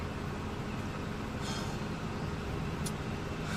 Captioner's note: deep breathing